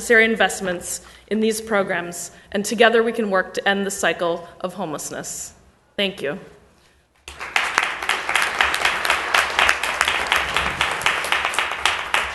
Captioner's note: applause